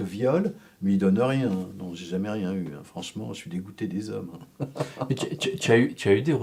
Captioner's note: laughs